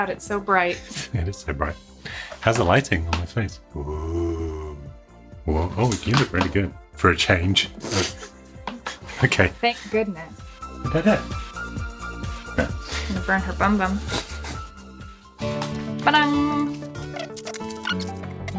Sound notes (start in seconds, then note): 7.8 laughs